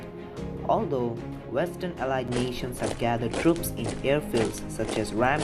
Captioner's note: marching sounds